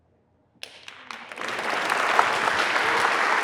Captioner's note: audience applauding